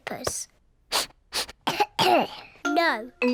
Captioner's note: sniffs and coughs